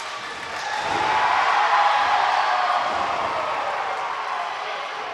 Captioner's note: audience roaring